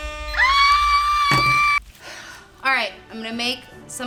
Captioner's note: air horn blowing; shrieking